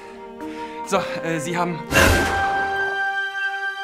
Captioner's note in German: Erschreckender Ton